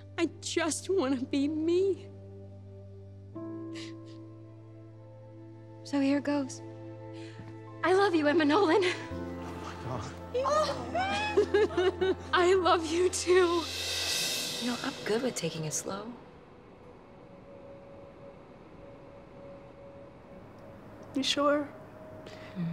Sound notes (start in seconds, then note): 9.3 crowd gasps; 12.8 cymbal drum roll